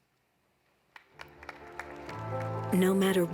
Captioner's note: audience applauding; dramatic music